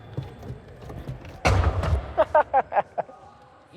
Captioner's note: laughter